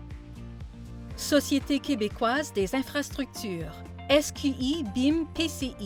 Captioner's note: speaking in foreign language